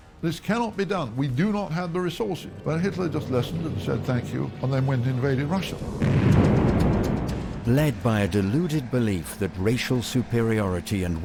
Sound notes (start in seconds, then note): 6.0 bomb booms